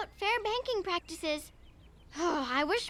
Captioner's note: sighs